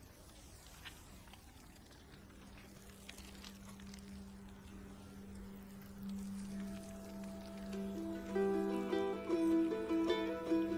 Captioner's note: gentle wind blowing